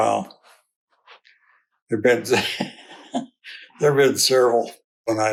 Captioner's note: laughs